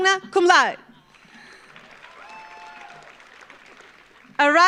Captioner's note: audience applauds